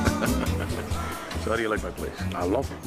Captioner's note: laughing